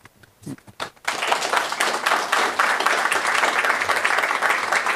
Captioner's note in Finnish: Aplodeja